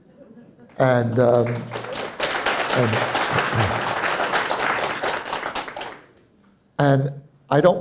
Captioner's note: applause